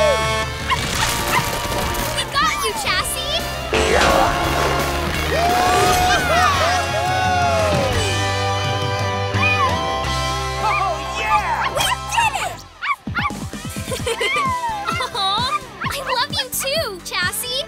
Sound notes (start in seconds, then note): 1.2 barking; 9.0 barking; 13.7 giggles